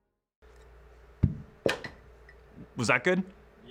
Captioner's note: cushioned thud